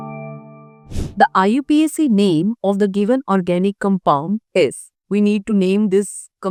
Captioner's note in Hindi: नाक से की जाने वाली आवाज़